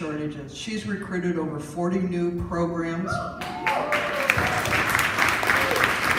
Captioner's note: applause